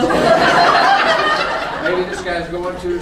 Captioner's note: crowd laughing